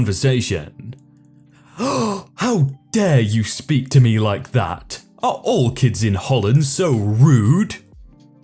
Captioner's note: gasp